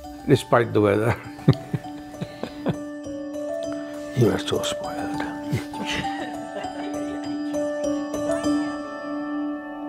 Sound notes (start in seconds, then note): 1.4 chuckles softly; 5.5 laughing; 5.9 camera crew laughing; 7.3 soft uplifting music continues